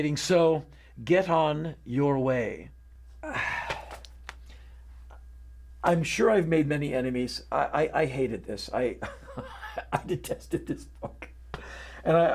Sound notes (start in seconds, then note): 3.2 sigh; 9.0 laughing